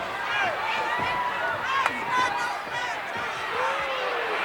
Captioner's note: audience cheering